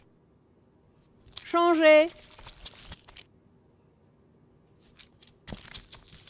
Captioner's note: woman speaking French